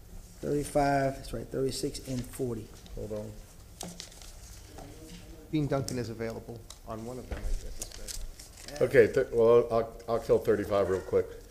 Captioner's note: off microphone